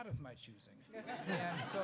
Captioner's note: laughs